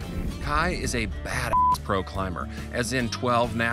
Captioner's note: beep